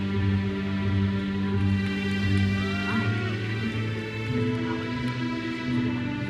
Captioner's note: audience member cheers